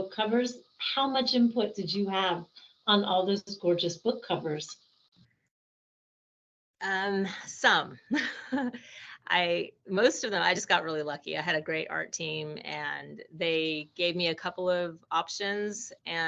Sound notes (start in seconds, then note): 8.0 laughing